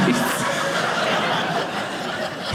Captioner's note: audience laughing